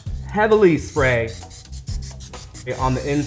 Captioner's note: oil spraying